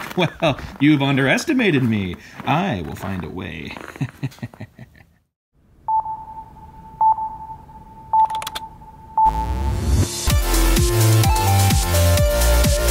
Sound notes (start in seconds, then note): 3.7 chuckling; 5.9 high-pitched beeping; 9.2 techno music